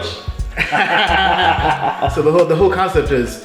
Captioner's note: both laughing